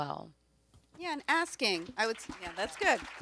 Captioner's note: audience applauds